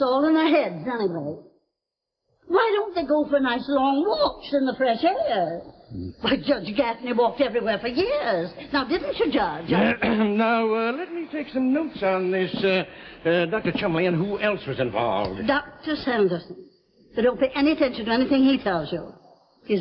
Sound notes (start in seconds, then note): 9.7 clears throat